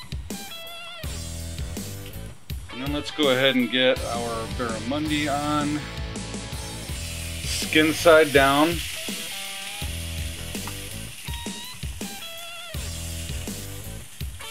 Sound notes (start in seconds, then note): 0.2 upbeat rock music; 8.8 fish sizzles